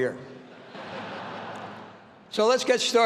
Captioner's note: all laughing